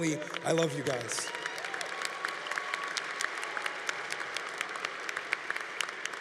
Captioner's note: congregation applauding